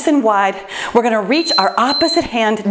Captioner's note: timer beeps